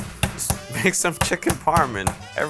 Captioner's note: laughs